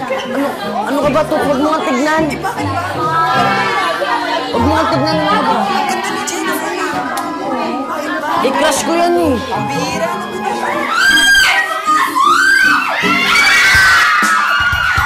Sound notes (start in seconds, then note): 10.6 woman screams; 13.1 clamoring